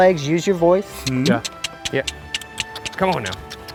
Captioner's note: all clicking their tongues and making kissing sounds